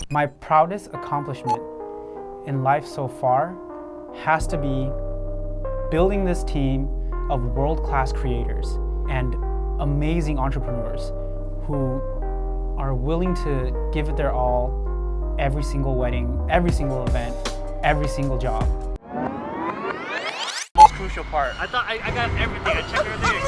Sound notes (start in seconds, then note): 19.0 rewind sound effect